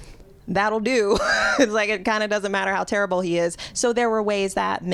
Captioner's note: laughter